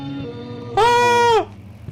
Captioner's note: screams